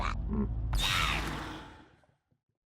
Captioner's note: whack sfx